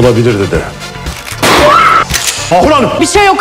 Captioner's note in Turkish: Patlama sesi